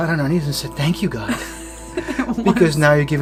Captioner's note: chuckling